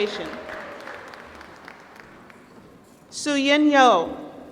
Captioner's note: applause